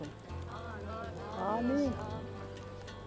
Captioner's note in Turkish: Hep bir ağızdan